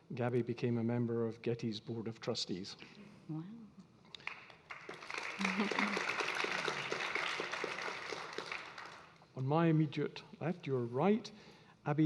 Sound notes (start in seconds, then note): 4.1 audience clapping